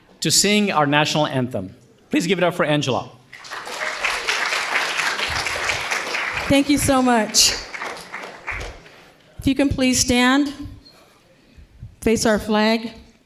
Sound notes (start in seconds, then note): 3.3 audience applauding